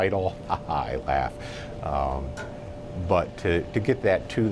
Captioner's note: laughs